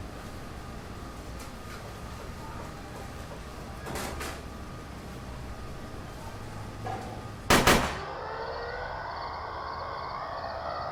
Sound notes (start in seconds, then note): 7.5 gunshots